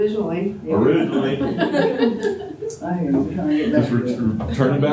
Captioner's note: laughter